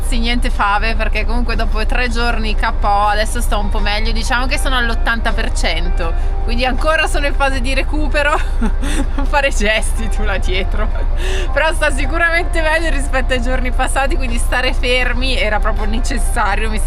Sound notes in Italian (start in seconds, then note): 8.3 risate